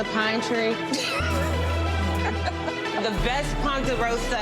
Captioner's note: laughs